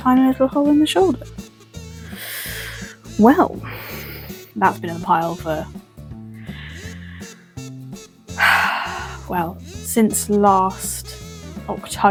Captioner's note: sigh